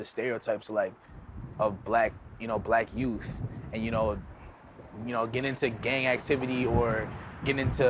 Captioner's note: none